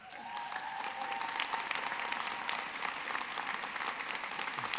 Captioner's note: audience clapping